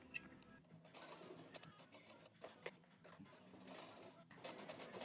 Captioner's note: darning foot whirring